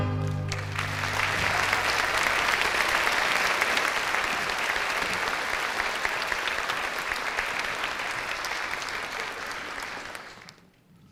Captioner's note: applause